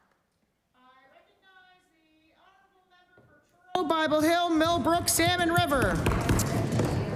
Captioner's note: applause